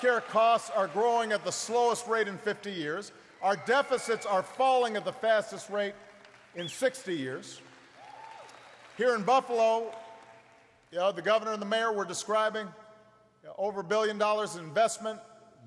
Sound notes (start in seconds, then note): 8.3 applause